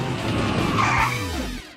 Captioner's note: screeching